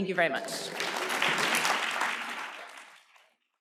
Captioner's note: applause